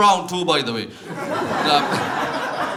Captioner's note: audience laughter